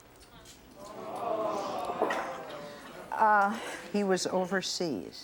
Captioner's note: crowd chattering